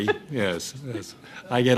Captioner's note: laughter